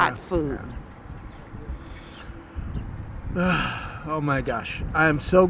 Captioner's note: sighs